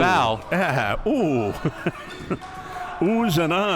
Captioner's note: chuckles